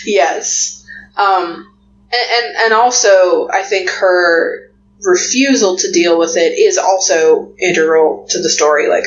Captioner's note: laughs